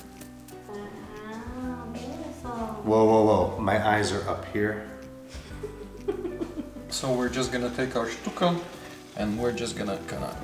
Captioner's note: laughing